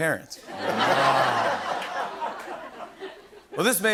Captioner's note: laughter